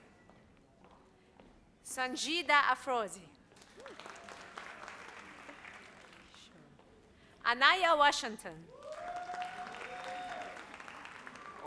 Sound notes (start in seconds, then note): 3.6 audience applauds; 8.7 audience applauds